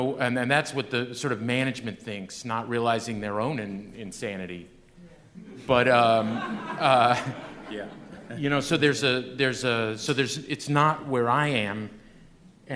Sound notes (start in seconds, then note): 4.3 laughter